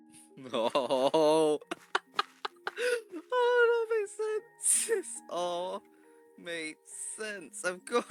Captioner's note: evil laughter that makes me wanna stab them